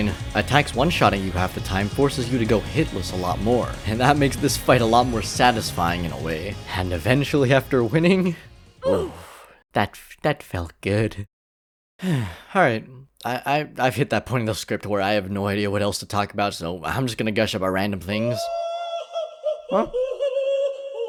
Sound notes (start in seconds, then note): 12.0 sighs; 18.5 Queen laughs and enters